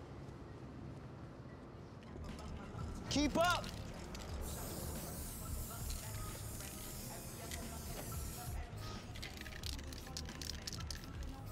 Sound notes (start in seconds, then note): 3.6 spraying